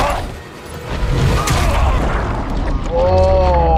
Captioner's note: blow landing